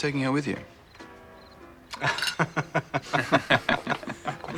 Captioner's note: laughing